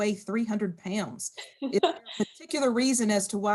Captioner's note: laughing